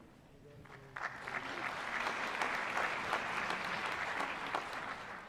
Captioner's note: applause